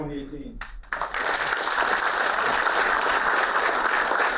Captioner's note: applauding